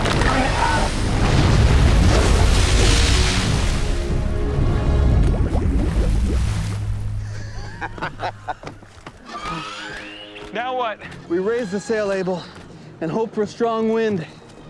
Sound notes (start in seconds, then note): 0.0 roaring, gnashing; 10.5 laughter